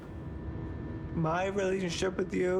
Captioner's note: drone of plane